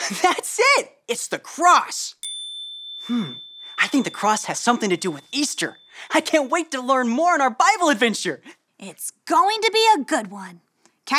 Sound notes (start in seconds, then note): 2.2 bell dings